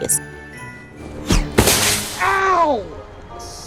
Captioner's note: snowball crashing